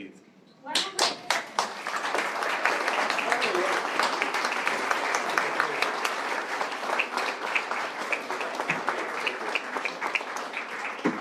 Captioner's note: applause